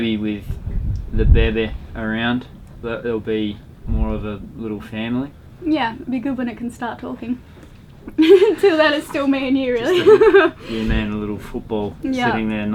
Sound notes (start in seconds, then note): 9.8 laughs